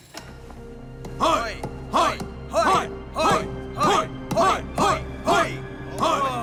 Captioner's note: all cheering